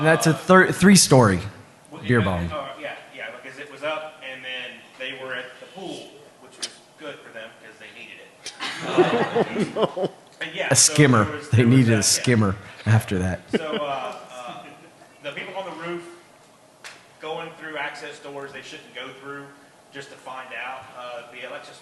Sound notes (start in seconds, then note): 8.5 laughter